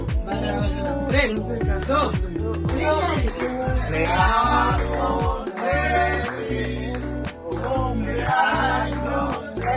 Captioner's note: foreign language 00:34:16